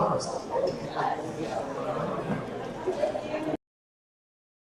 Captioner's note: people chatting